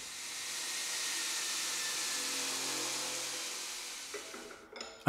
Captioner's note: the grinder's whirring slowly fades away